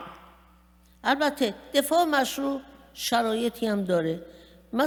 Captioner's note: speaking persian